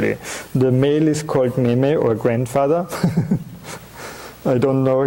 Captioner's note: chuckling